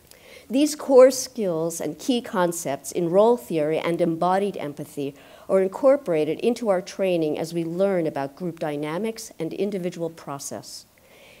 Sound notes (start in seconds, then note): none